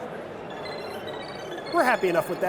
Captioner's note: electronic beeping